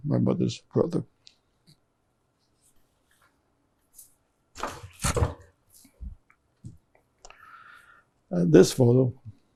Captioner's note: pauses 6 seconds